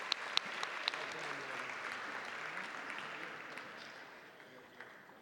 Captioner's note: audience applauding